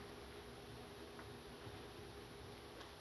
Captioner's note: none